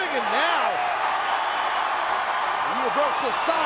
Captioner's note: crowd cheers